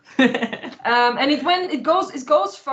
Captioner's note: laughter